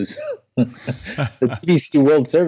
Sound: laughing

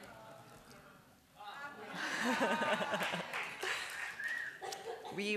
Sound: laughter

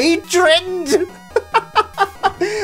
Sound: laughs

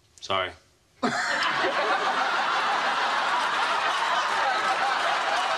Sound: laughs

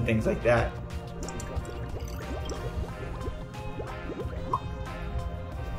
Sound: chemicals popping

